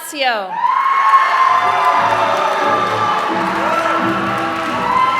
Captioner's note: applause